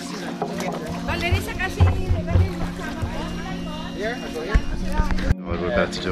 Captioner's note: woman speaks in other language